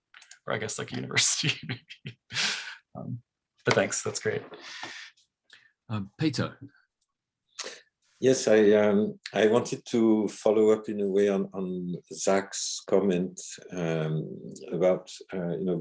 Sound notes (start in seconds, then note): 1.5 laughs